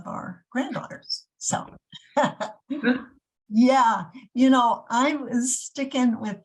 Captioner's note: chuckles